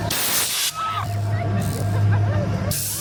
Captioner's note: air hissing; riders screaming; riders laughing